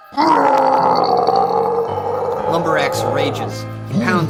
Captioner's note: Lumber Axe groaning